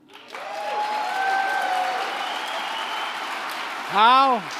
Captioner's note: applause